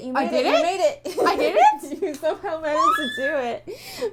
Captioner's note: laughing